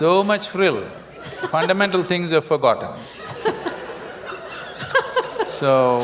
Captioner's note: laughter